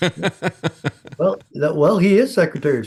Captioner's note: laughing